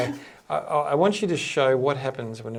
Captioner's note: chuckling